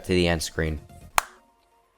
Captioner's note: clap